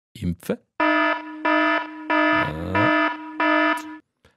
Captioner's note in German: Alarm